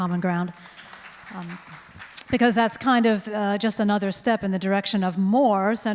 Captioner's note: crowd applauds